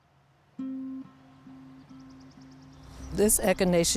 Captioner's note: birds chirping